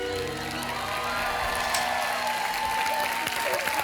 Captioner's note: audience applauds and cheers